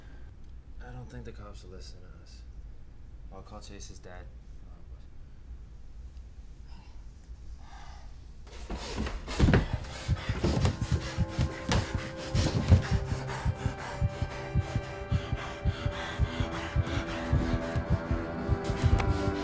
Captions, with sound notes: I don't think the cops will listen to us. I'll call Chase's dad. - Okay. (Blake sighs) (something clattering and thumping) (labored breathing) (suspenseful music)